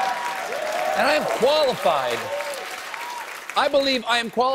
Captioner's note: cheers and applause